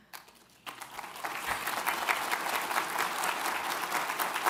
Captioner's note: audience applauds